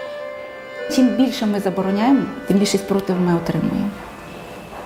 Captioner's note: in Ukrainian